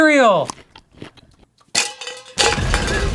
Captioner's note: closed mouth crunching; metal canister clanking